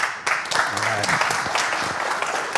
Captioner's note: applause